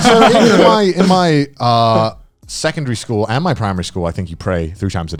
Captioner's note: both chuckling